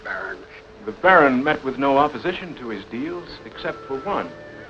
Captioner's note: narrating